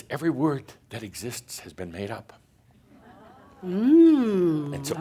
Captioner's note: audience says “Ohh”